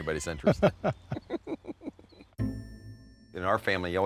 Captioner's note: laughing